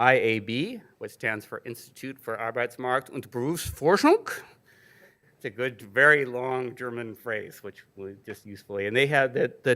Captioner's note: speaking German 00:58:51